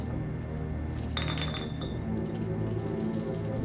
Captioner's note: bottle clatters; tense music continues